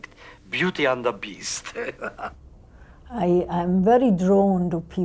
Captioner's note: chuckles